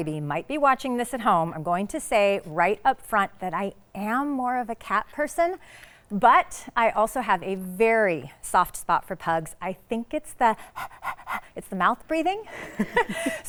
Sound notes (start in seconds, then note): 10.6 pants; 12.5 laughs